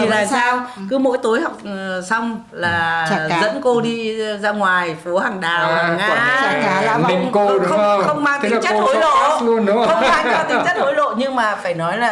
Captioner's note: laugh